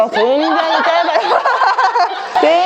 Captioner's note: laughter